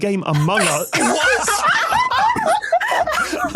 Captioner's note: group laughing uproariously